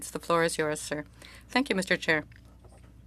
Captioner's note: speaking french